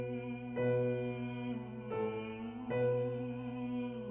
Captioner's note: humming